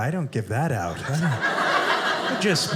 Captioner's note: audience laughing